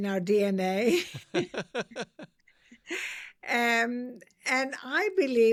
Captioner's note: laughs